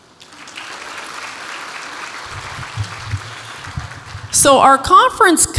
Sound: audience applauds

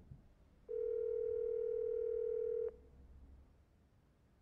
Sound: dial tone continues, no answer

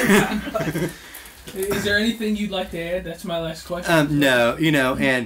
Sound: both laugh

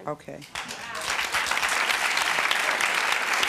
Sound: clapping

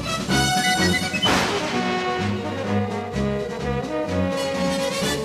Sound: thunder cracking

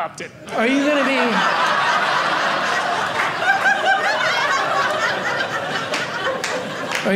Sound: audience laughing

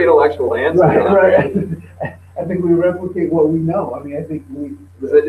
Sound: laughs

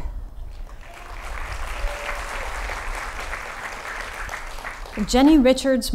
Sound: applause

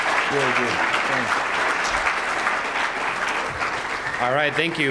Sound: applause

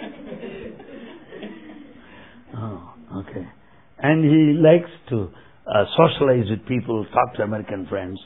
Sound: laughter

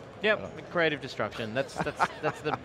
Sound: laughing

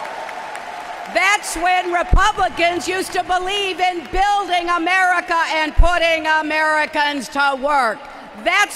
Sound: applause

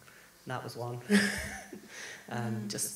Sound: laughs

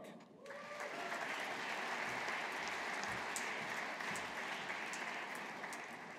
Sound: audience applauding

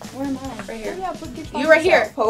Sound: speaks faintly

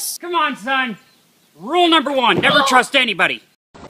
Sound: pained groan in the background

